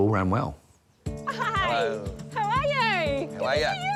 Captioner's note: laughs